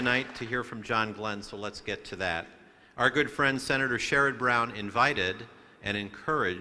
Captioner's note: applause